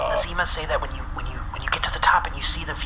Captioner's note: groans